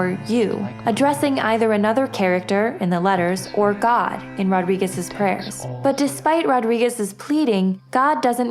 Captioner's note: prayers